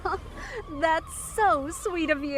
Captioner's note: laughs